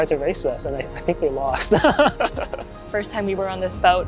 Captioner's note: laughing